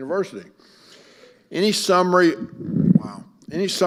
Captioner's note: mic creaks